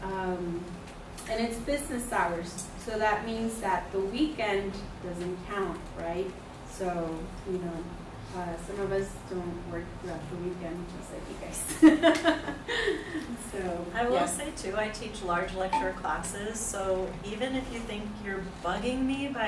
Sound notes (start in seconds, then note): 13.0 laughs